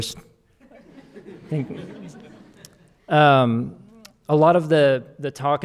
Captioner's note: audience laughing